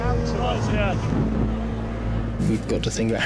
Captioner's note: boat engine roars